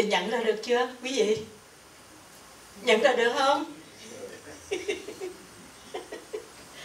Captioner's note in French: rires